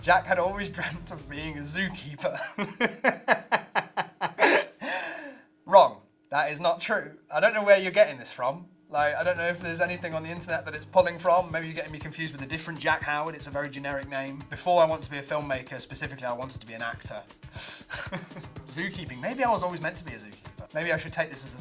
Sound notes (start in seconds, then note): 2.3 laughs